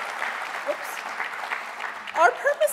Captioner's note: applause